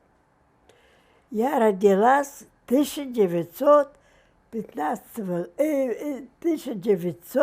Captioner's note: mumbling